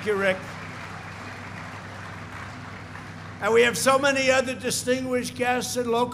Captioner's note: applause